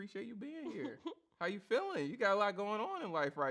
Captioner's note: chuckles